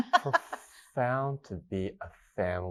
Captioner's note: laughs